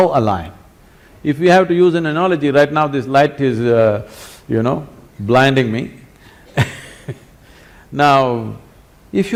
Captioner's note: laughs